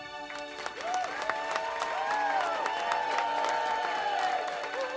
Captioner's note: people cheering